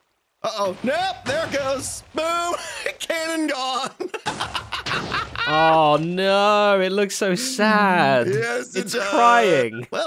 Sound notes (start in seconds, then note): 3.8 laughs